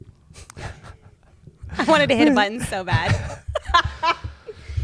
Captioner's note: laughs